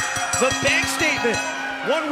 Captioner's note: bell ringing